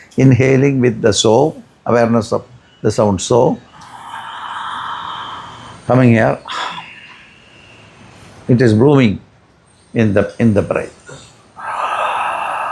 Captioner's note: hum; sighs and gasps